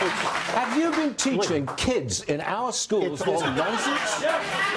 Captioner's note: applause